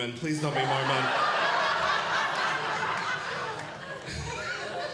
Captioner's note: audience Laughing